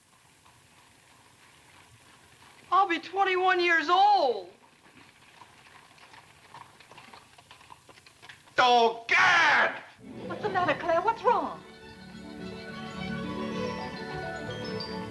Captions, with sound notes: I'll be 21 years old! [carriage rattling] Oh, God! What the matter, Clare? What's wrong? [instrumental music]